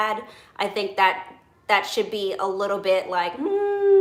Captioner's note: hums